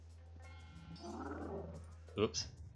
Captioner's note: growl from off-screen